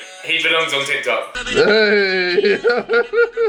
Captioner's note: laughing